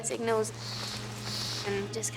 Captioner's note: bird call in distance